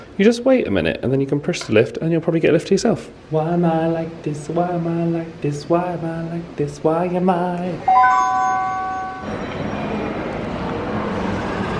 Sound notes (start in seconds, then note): 7.8 lift chimes